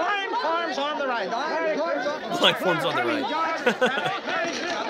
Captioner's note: laughter